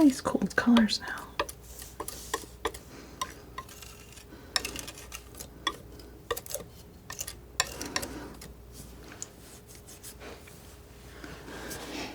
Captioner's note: tapping